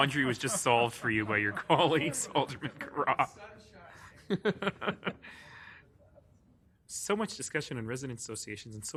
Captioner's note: laughing